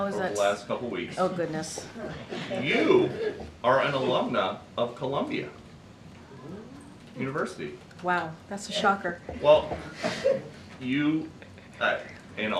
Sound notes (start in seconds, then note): 1.6 laughter; 8.7 laughter